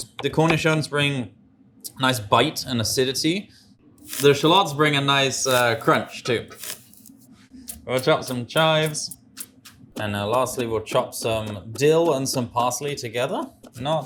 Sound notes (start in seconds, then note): 5.1 shallot crunches; 7.7 knife chops